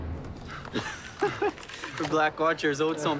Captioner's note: laughing